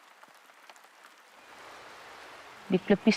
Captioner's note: rainfall continues